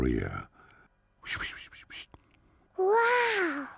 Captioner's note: whispers